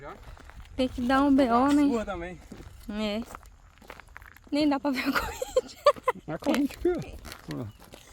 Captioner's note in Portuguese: risadas